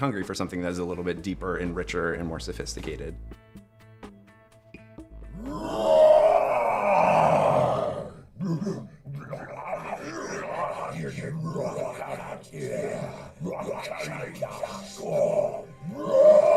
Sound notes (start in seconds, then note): 5.9 grondement; 12.0 grondement